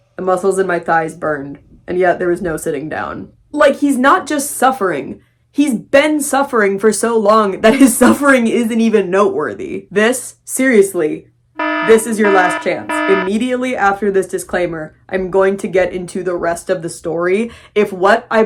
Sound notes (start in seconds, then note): 11.6 alarm blaring